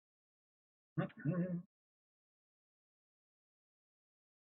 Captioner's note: hums